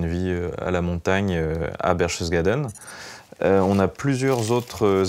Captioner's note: French spoken audio